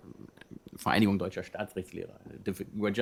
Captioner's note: non-english